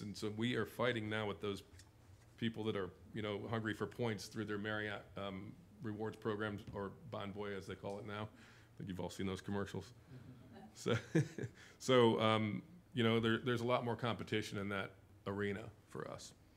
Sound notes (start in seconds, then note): 11.0 laughing